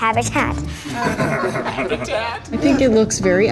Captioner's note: guys laughing